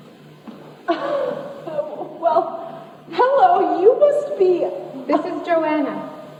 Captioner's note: laughs